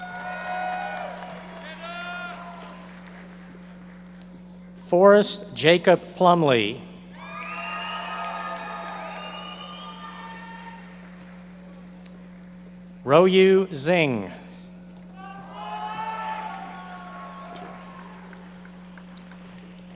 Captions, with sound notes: (audience cheering and applauding) Forrest Jakob Plumlee. (audience members cheering and applauding) Ruoyu Zheng. (audience members cheering and applauding)